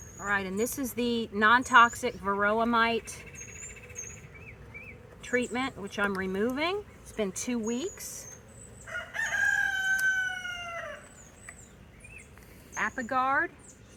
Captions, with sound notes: Alright, and this is the non-toxic varroa mite treatment, which I'm removing. It's been two weeks. (rooster crowing) Apiguard.